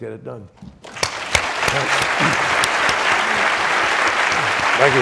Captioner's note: audience applauds